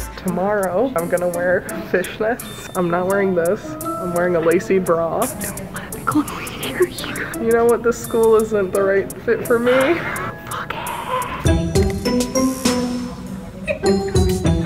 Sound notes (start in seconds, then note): 5.5 whispering; 10.2 whispering; 11.6 upbeat music